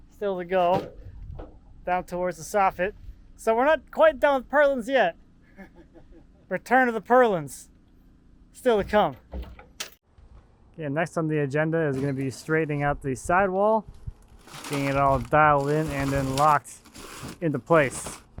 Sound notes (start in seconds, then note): 5.5 builder laughs